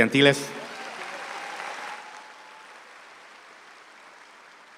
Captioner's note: speaks in Spanish; audience applauds